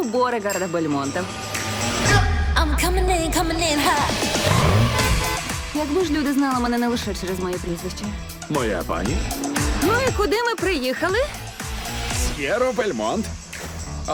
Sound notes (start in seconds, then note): 3.8 horn honking; 11.7 titters; 13.5 gasps